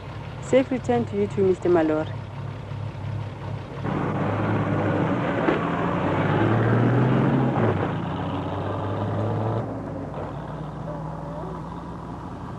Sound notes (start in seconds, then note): 4.5 truck driving